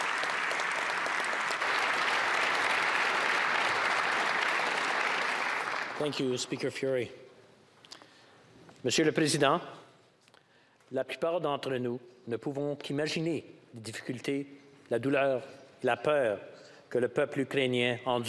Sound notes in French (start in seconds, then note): 0.0 applaudissements; 10.8 voix de l'interprète